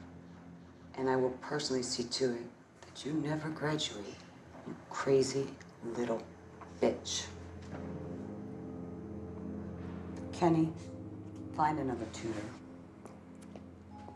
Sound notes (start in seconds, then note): none